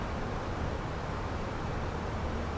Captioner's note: radio chatter